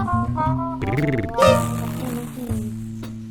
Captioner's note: engine purring